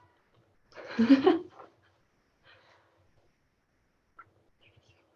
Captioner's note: laughter